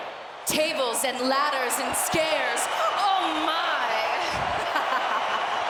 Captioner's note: laughs